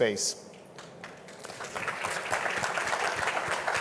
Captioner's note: audience claps